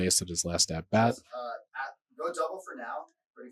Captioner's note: background chatter